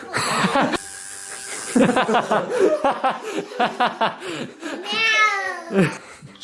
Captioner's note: child screaming; laughing